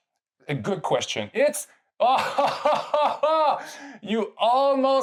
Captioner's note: laughing out loud